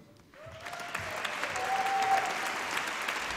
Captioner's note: applause